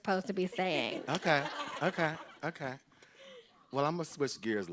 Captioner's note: group laughing